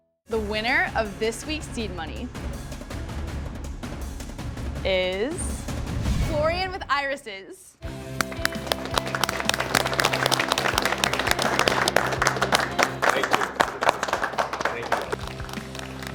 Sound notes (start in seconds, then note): 7.9 all clapping